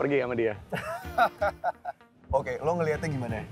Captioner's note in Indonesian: Ketawa